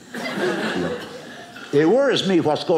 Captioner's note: audience laughing